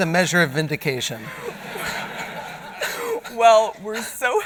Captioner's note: laughter